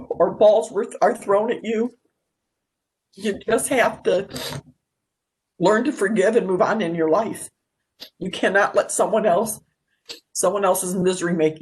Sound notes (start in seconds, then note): 4.3 sniffs